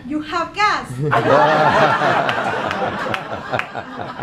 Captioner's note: laughing